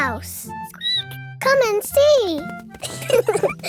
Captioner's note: squeaks; both laughing